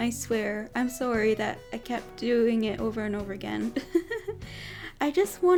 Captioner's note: giggles